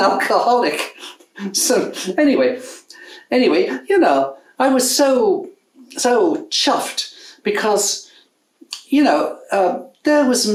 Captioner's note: chuckles